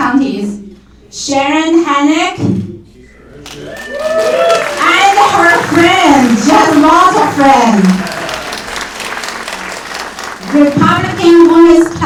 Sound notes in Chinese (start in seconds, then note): 3.4 掌声